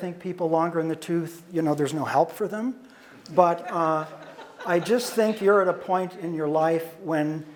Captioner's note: audience laughter